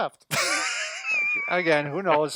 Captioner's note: laughing